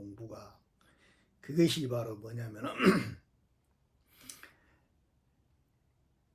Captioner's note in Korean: 기침; 목을 가다듬음